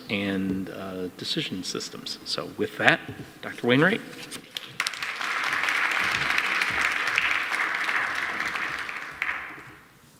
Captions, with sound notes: and decision systems. So with that, Dr. Wainwright. (audience applauding)